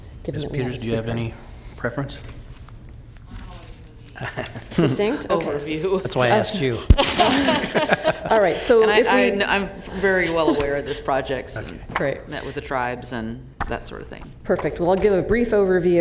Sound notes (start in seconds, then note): 10.0 laughter